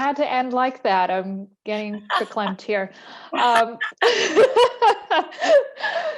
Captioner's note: laughter